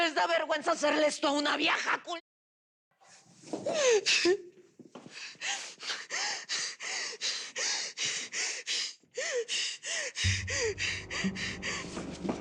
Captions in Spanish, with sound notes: ¿NO LES DA VERGUENZA HACERLE ESTO A UNA VIEJA? !-------! [Sollozos] [Respiración agitada]